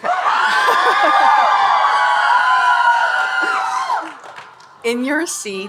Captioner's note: audience cheering and applauding